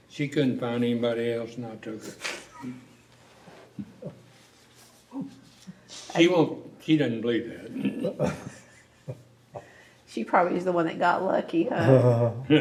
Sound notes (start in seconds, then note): 7.7 laughter